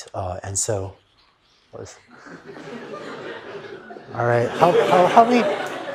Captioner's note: laughter